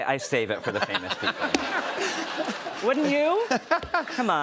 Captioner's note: laughter